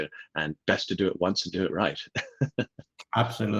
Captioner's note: laughs